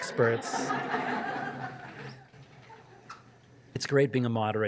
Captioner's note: audience laughing